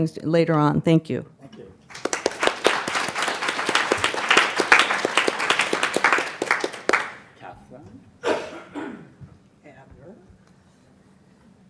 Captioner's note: applause